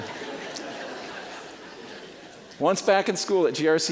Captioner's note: audience laughing